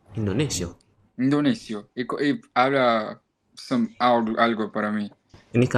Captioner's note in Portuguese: espanhol